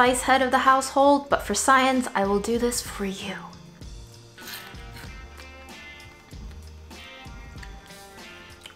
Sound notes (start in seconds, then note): 4.2 crunching